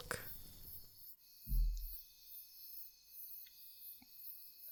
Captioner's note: crickets and birds heard chirping loudly in the background of the forest nearby